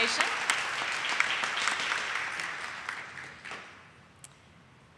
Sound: audience applauding

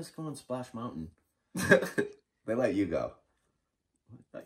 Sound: chuckling

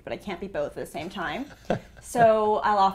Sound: laugh

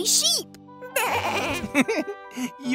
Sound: baaing; chuckling

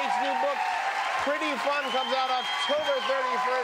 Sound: cheers and applause

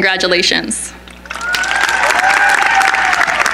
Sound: cheering

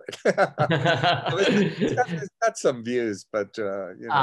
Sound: laughter

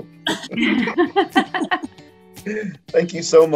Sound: laughter

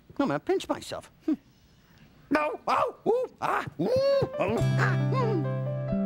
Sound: groaning in pain

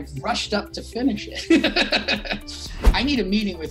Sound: laughing

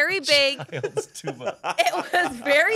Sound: laughs

